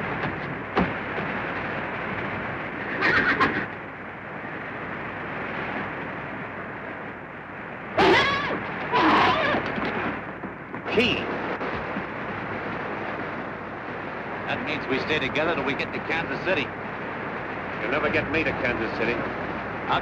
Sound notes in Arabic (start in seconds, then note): 2.9 صهيل الحصان; 8.8 صهيل الخيول